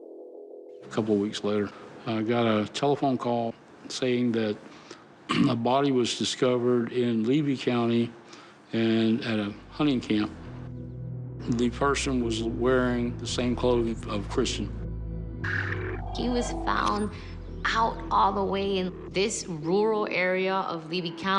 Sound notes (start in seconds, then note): 5.3 clears throat